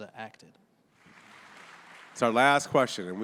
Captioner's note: audience applauding